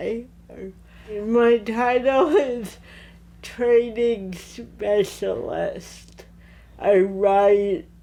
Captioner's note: laughing